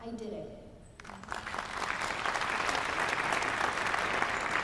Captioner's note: applause